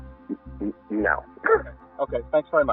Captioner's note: laughs